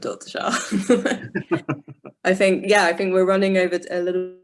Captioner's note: both laugh